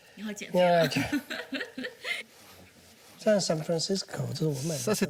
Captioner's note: both speaking foreign language